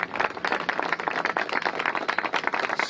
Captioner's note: applause